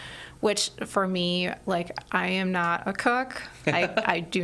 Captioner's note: laughs